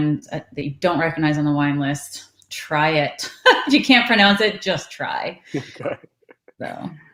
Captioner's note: laughs